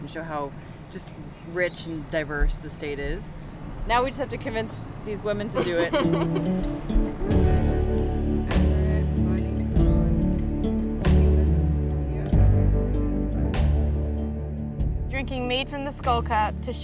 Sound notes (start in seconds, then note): 5.5 laughter; 7.3 soft music